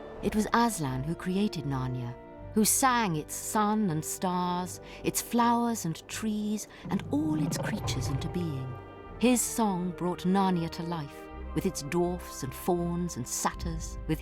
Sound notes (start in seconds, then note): 6.8 growling